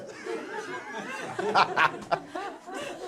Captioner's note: laughing